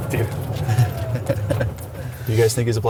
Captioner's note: laughs